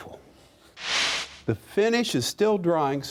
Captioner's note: whooshing